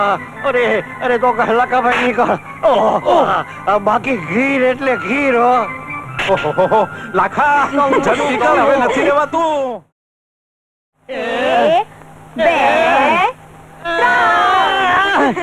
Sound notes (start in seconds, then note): 7.6 laughs